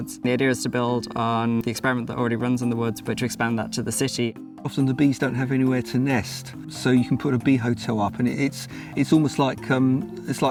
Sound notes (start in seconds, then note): none